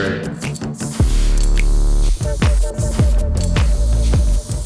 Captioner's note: spray paint hissing